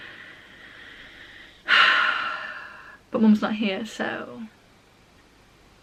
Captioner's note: sigh